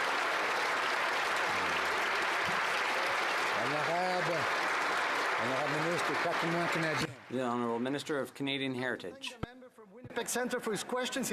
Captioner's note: applause